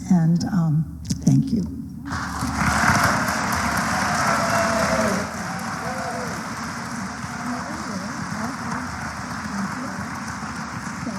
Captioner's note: applause